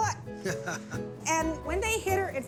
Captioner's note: chuckling